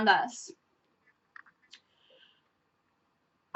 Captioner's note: long pause